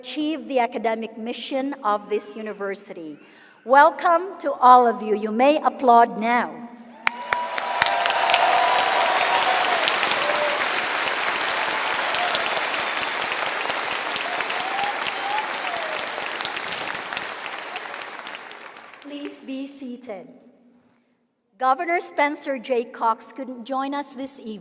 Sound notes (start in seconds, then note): 13.9 applause